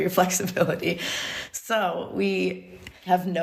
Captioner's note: laughs